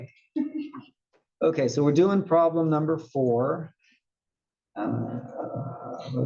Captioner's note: laugh